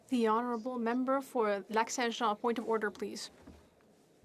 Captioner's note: speaking French